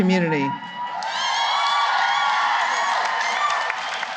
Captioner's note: cheering and applause